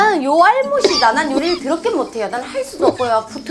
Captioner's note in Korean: 쿨럭